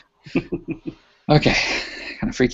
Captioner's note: chuckling